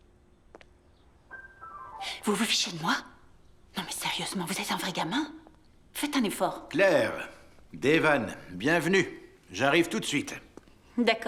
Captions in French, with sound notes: (exécute un glissando au piano) Êtes-vous... (Claire marmonne) Claire. Devan. Bienvenue. J'arrive tout de suite.